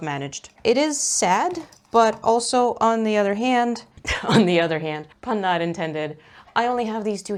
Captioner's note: laughs